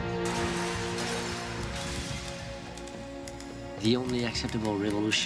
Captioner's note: glass shattering